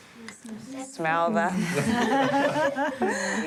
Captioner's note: laughs